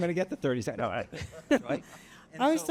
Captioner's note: laughs